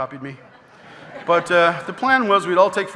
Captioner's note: audience laughing